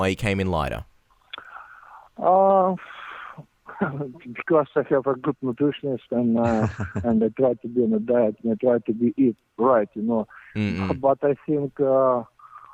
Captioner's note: laughs